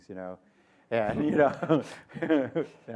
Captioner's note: laughter